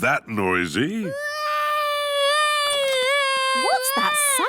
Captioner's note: baby wailing